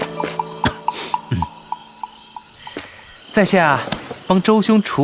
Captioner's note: cough